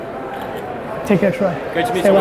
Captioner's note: camera snap